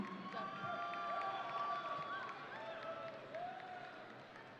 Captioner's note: audience cheering